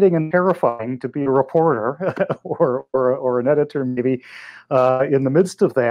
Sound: laughs

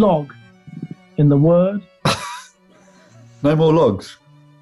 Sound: laughing

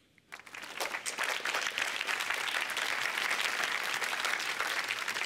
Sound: applause

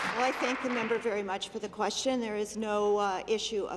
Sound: applause

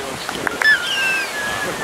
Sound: whistling; squealing

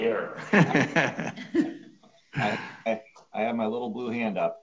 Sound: several laughing

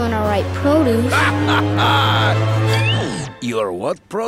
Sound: laughing

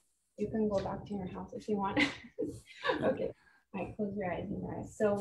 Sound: chuckles

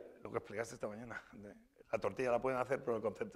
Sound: speaking spanish; speaking spanish

